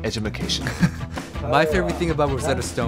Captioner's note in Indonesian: tertawa kecil